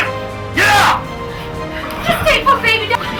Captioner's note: men pound